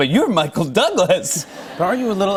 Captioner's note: laughter